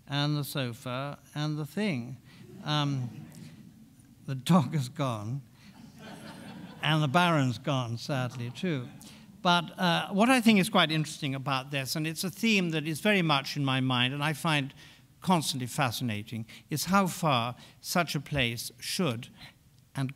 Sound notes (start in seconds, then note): 5.8 laughs; 5.8 audience laughing